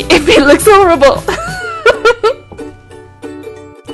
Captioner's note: laugh